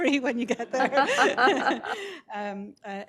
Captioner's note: laughter